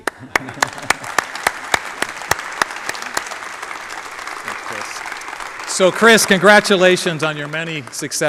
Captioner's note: applause